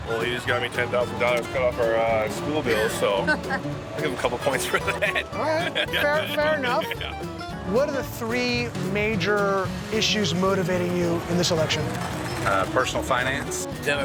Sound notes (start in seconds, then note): 4.1 man laughs